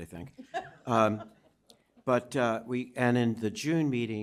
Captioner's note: chuckling